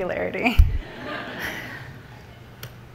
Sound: audience laughs

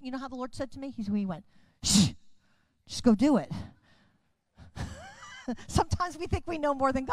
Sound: chuckles

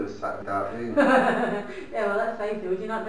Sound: laughing

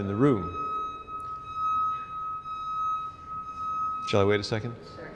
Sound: truck beeping

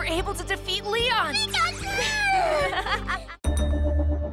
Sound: giggles

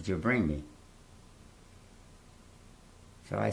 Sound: pauses for 3 seconds

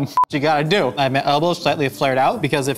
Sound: recording beep

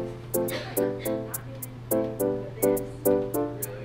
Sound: chill electronic music; coughing

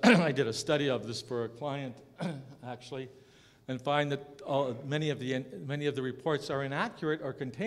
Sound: cough

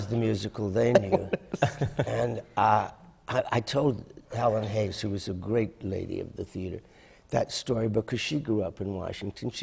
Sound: laughter

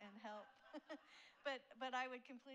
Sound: laughs

